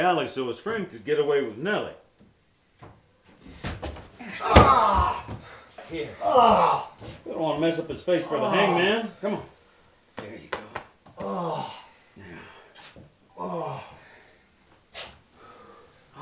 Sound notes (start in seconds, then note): 4.2 henchman groans; 11.2 henchman groans